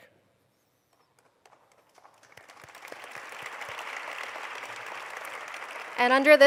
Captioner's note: applause